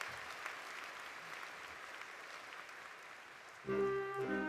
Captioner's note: applause continues